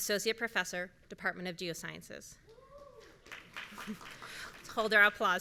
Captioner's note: audience members cheering